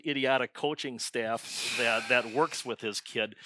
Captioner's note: sighs